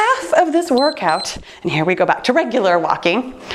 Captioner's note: timer beeps